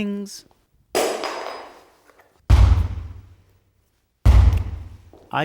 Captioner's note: object dropping